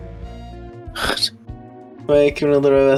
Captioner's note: weird cough sound